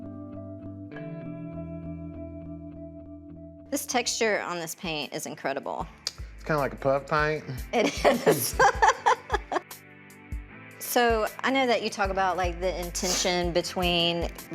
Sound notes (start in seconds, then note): 0.3 soft music; 7.8 laughs